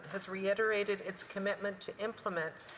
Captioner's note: speaking French